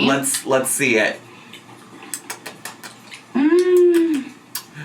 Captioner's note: smacking lips